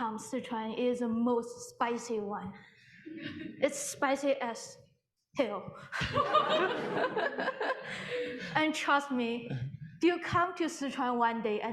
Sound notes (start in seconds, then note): 6.0 audience laughing